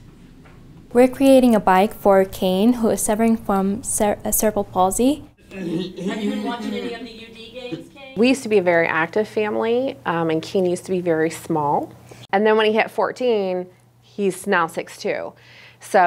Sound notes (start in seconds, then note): 5.4 laughs